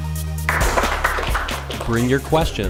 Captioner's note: applause